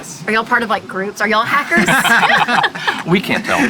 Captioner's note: laughing